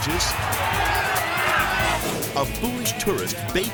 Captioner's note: people screaming; upbeat music continues